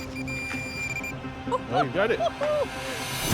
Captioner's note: laughs